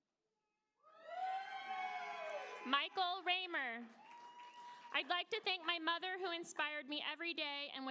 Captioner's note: applause